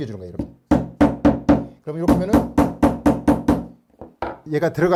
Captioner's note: hammering sound